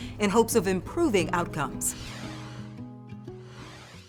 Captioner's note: logo whooshing